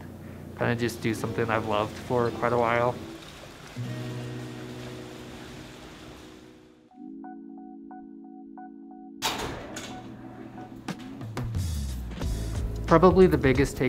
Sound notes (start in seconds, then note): 3.6 water running; 9.2 door opens